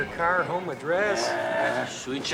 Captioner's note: groaning